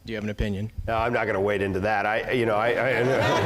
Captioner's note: laugh